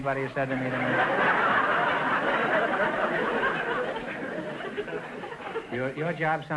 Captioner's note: audience laughter